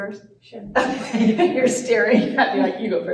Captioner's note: laughter